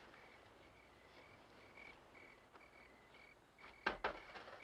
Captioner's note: crickets chirping